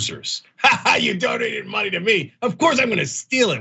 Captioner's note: laugh